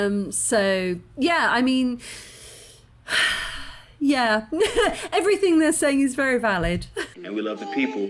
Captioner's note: sigh